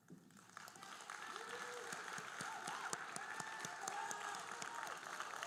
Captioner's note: audience cheering and applauding